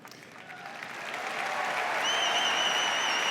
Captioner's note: applause